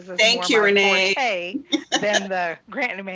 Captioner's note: laughs